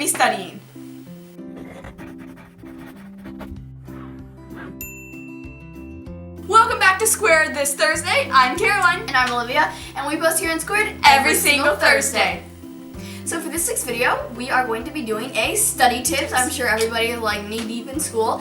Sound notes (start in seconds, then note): 1.5 pencil writing; 1.6 upbeat music; 4.8 bell rings